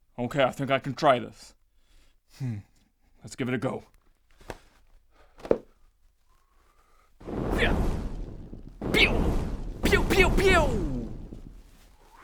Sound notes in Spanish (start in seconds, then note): 7.2 Fwwrr; 8.9 Pewww